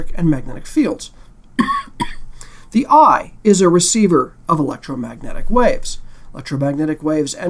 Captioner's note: cough